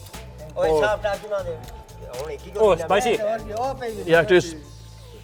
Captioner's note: man speaks foreign language